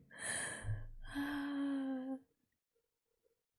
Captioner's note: satisfied sigh